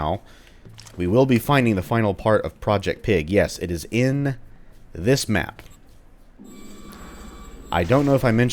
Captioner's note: door squeaks